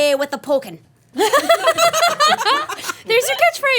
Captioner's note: everybody laughing